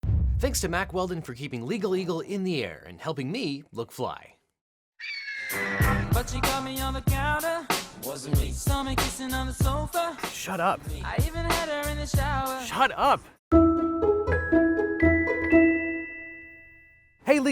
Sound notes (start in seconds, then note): 5.0 eagle screeches; 14.9 gentle chiming music